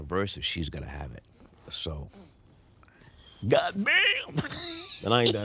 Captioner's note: laughs